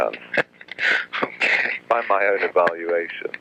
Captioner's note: laughs